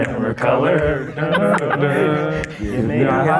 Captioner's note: men humming